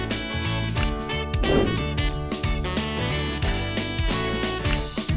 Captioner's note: woosh